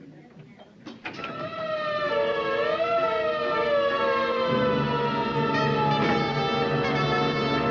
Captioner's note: tense music; siren wailing